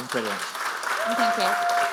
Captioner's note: audience applauding